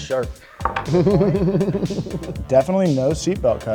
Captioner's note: laughing